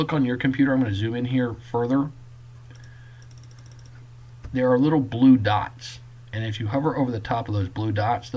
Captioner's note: clicking